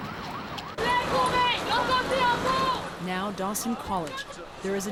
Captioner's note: shouting in French